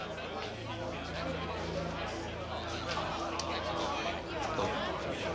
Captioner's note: restaurant goers chatter